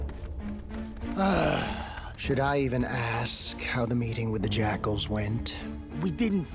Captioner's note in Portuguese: suspiro